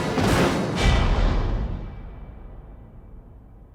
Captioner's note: logo thudding